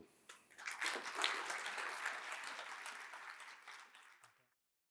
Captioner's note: audience applauding